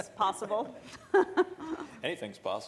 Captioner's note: laughing